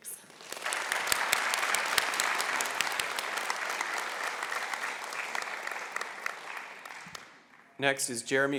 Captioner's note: applause